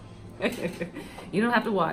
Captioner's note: laughs